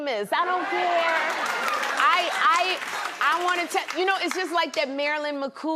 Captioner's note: laughter and applause